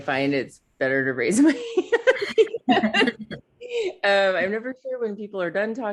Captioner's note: laughing